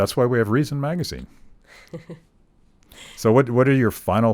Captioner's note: laughing